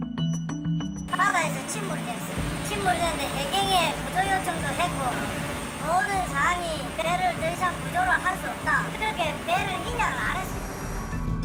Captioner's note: voiceover